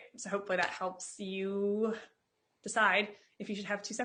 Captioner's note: claps